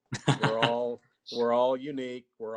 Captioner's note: laughing